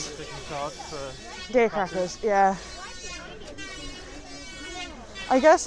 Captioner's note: electric saw noises